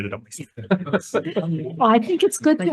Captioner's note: attendees laughing